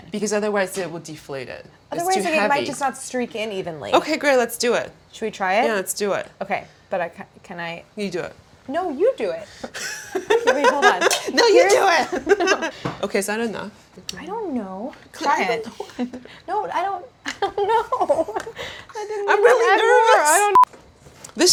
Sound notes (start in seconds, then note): 9.5 laughing